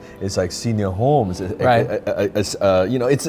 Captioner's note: laughs